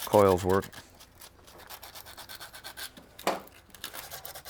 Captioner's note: bristles scrape